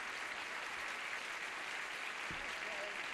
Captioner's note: applause